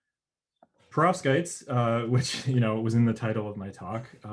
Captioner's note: chuckles